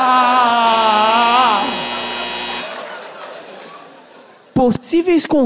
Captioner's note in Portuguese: campainha